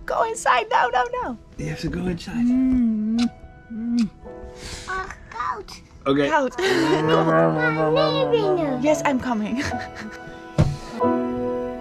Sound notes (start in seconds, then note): 3.0 kissing sounds; 5.1 makes roaring noises; 5.1 speaks Dutch; 9.5 laughs